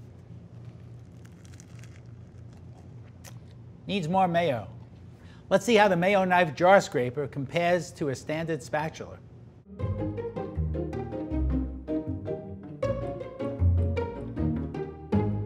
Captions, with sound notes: [sandwich crunches] Needs more mayo. Let's see how the mayo knife jar scraper compares to a standard spatula. [bright jaunty music]